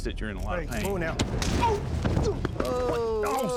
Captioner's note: punch; scottish accent